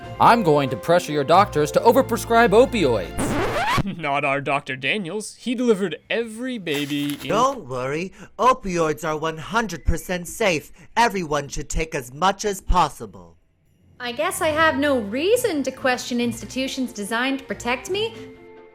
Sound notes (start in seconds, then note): 3.0 record scratch